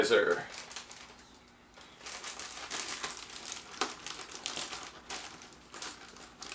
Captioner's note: plastic bag noise